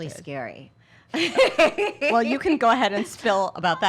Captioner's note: laughs